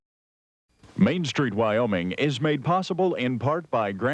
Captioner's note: voiceover